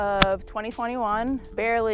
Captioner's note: golf ball smacks